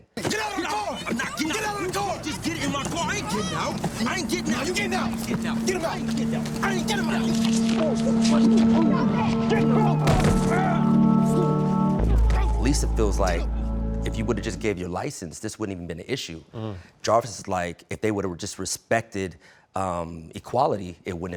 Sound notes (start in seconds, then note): 11.5 muffled Yelling